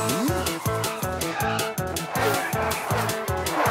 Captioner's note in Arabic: صوت فرامل